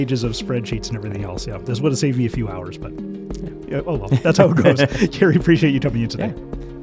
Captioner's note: chuckles